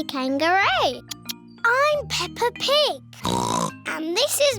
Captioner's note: oinks